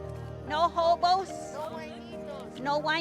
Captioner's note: speaks in foreign language